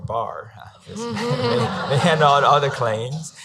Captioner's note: laughing